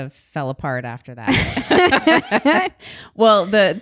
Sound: both laugh

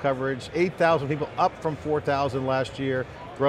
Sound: crowd talking

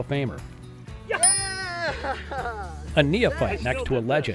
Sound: cheers

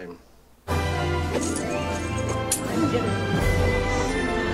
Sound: jewelry clangs

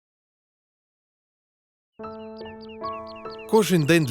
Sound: the birds are singing

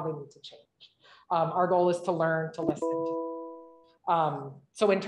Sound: computer notification chime

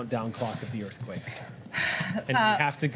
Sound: exhales

